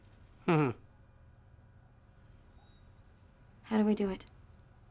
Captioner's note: Valerie chuckles